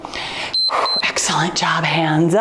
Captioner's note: timer beeps